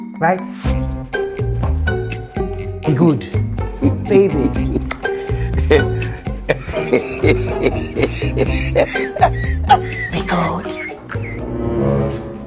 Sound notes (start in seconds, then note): 4.8 kisses